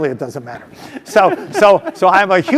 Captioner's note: laugh